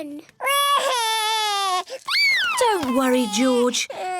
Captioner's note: cries